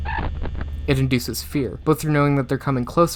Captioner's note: camera glitching SFX